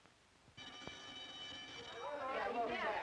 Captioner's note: bell ringing